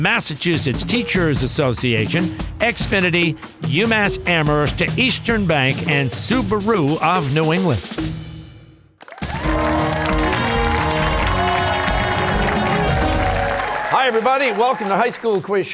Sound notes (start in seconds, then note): 9.0 cheers and applause